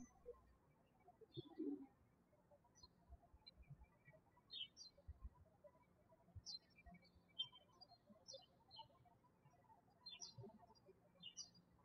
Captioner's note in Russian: птички щебечут